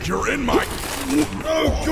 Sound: throws up

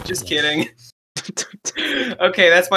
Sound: laughs; breathes in

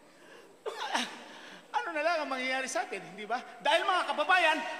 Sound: scoffs

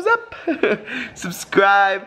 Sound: laughs

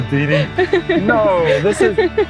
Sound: laughing

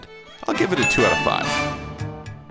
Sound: bell ringing

